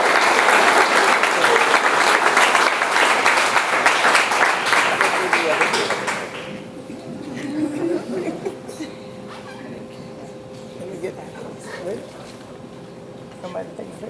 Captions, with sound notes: (audience chattering) - Somebody take pictures?